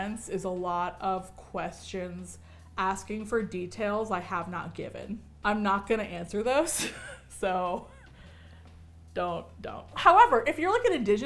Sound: chuckles

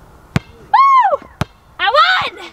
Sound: cheering

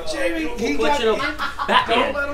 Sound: laughs

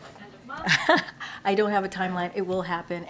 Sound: laughs

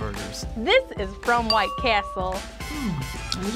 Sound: ding

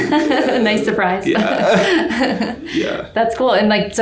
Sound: laughing loudly

